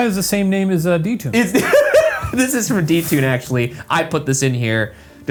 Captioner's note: laughs